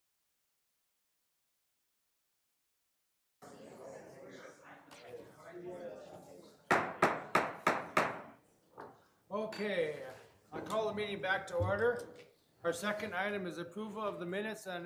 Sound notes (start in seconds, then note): 3.6 distant chatter; 6.7 gavel pounding